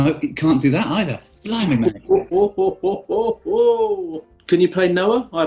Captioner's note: chortling